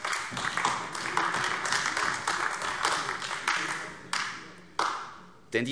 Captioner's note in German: Beifall AfD